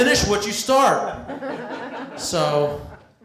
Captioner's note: laughter